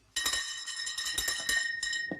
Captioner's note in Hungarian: csengőszó